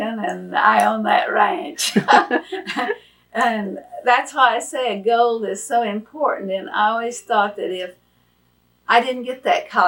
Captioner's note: laughs